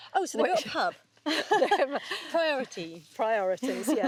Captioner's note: chuckles